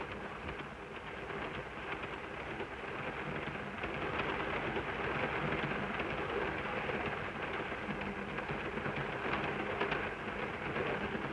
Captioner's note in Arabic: صوت خشخشة القطار